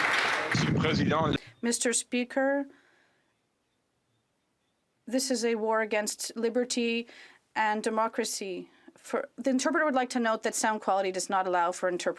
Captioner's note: some Applause